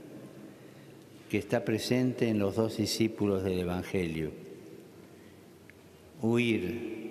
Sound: speaking Alternate Language

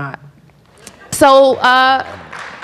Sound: applause

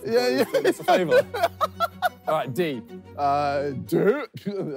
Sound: JJ laughs

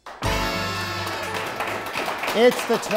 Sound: applause

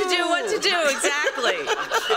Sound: laughter

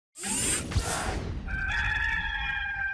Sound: swishing sound; cock crowing

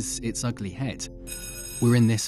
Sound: ringing

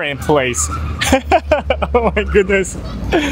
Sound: laughs

